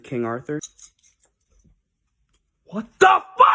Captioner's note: keys jingling